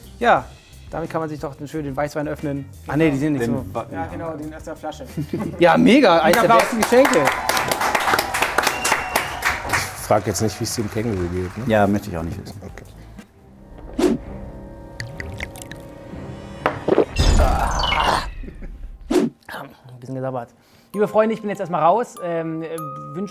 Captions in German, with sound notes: Ja, damit kann man sich doch schön den Weißwein öffnen. Ach nee, die sind nicht so ... - Die sind aus der Flasche. Ja, mega, eins der besten Geschenke. (Jubel) Ich frag jetzt nicht, wie's dem Känguru geht. Ja, möchte ich auch nicht wissen. - Okay. (Spannungsvolle Musik) Oaaah. Bisschen gesabbert. Liebe Freunde, ich bin jetzt erst mal raus,